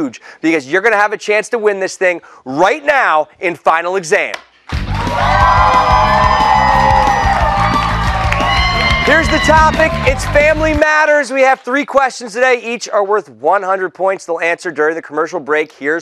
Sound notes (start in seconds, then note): 4.7 cheers and applause